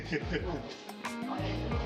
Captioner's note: laughs